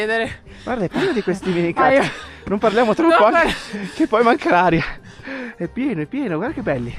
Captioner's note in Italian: risate